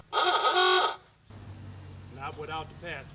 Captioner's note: honking